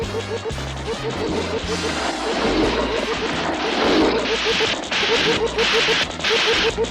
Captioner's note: machine humming; steam hissing